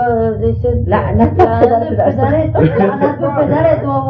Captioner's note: speaking in Farsi